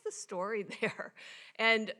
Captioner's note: chuckles